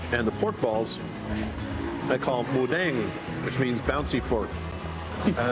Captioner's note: speaking Thai